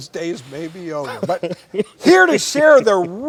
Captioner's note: chuckles